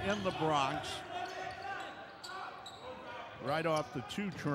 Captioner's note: yelling; shoes squeaking